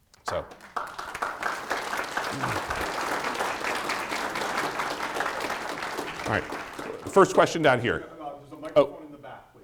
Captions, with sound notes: (audience applauding) All right, first question down here. - There's a microphone in the back,